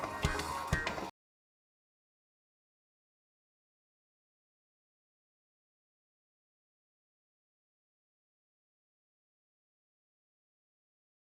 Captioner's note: audio muted due to Copyright